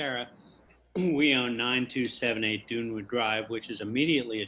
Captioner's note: clears throat